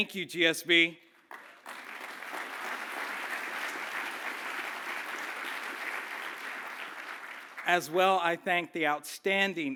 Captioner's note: applause